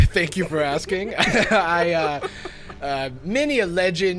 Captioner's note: players laughing